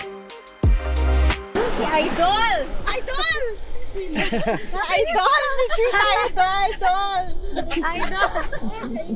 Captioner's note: laughs